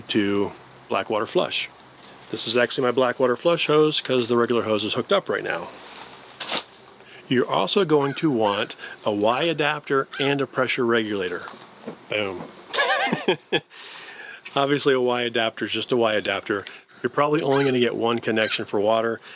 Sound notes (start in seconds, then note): 12.7 laughs